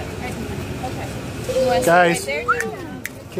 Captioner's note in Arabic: صافرة